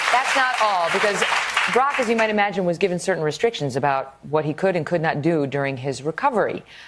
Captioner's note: applause